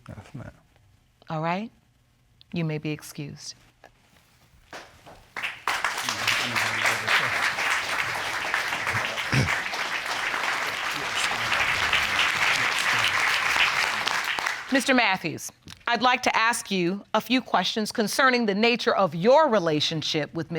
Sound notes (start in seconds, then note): 5.5 audience applauding